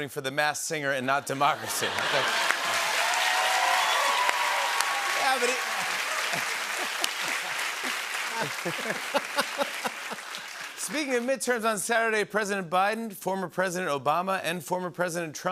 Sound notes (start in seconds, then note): 1.8 laughter, cheers, applause; 8.2 both laugh